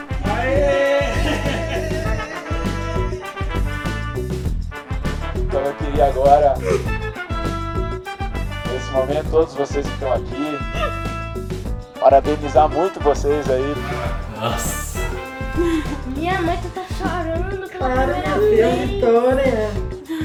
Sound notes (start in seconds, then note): 0.0 everyone laughing and cheering; 0.3 upbeat jazz music playing; 5.8 speaking Portuguese; 16.3 child speaking Portuguese